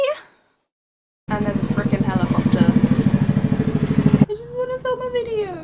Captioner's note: loud Helicopter noises